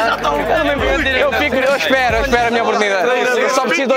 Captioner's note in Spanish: Se ríe